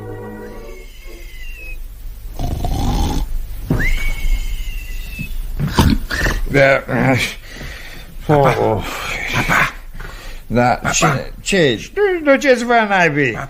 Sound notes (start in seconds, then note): 2.3 snoring